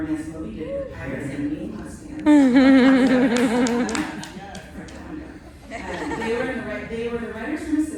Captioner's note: laughter and cheers